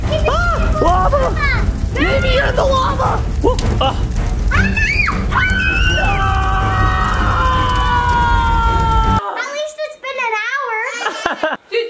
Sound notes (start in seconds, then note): 4.4 everyone screaming